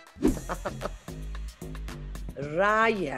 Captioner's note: Salma laughs